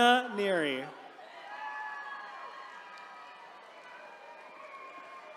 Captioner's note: attendees cheering